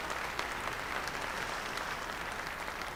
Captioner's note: applause